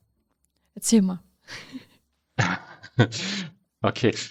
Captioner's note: laughs